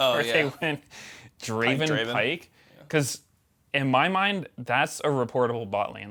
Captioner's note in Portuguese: risos